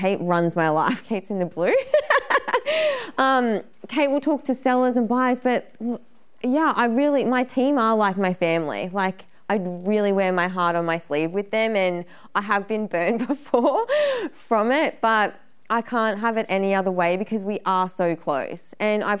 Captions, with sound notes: Like Kate runs my life. Kate's in the blue. (laughing) Kate will talk to sellers and buyers, but yeah, my team are like my family. I'd really wear my heart on my sleeve with them and I have been burned before from it, but I can't have it any other way because we are so close